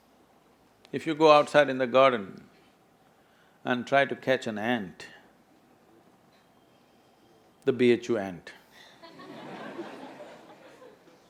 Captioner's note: laughter